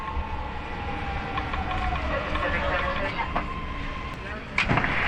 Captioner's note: train zooms